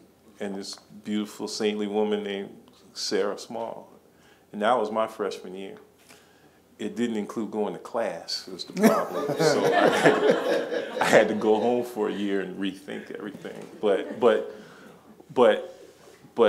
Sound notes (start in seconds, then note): 8.8 laughing